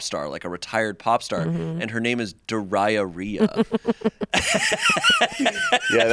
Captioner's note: laughs